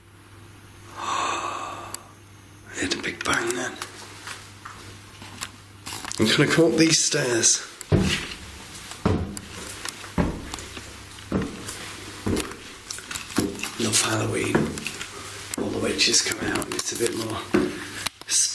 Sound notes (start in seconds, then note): 0.9 gasps